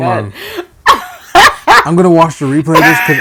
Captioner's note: laughing